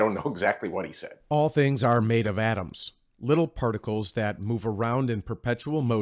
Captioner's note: voice over